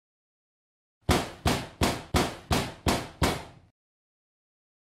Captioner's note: repetitive booming sound